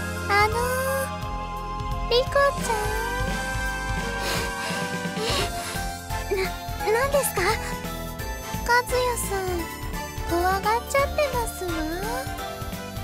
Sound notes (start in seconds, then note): 5.2 pant